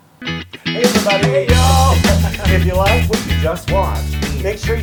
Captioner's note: laugh